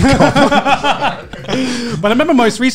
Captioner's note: laughing